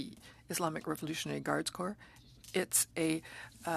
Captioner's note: speaking French